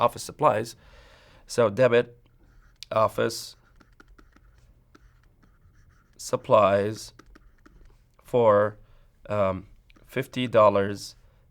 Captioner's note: writing sounds